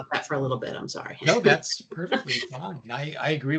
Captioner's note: chuckling